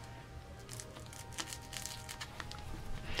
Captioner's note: crackling